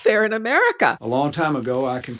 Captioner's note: soundbite of archived recording